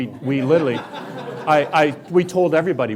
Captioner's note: laughing